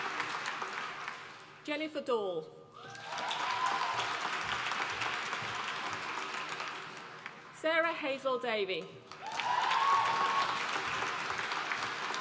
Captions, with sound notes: Jennifer Dall, (APPLAUSE) Sarah-Hazel Davie, (APPLAUSE)